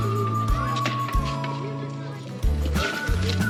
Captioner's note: kids playing and laughing